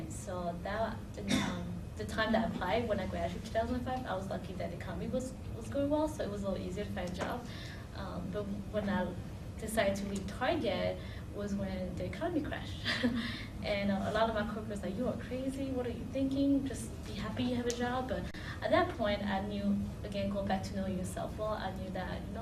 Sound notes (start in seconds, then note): 12.9 laughter